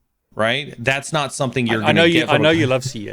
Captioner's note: murmurs; laughs